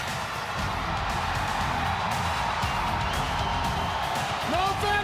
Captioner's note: crowd cheering